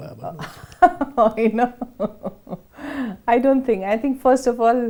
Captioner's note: laughs